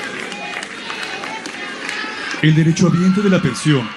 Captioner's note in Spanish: aplausos